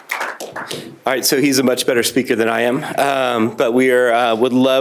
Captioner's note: applause